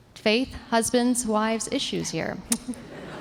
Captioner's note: laughter